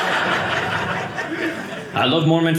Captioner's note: audience laughing